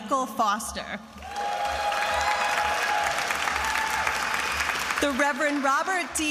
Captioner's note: attendees applauding and cheering